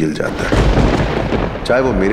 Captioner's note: Crackers bursting